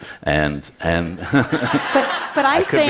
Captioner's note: Laughter; 笑聲